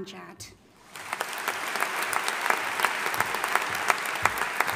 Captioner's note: audience applauding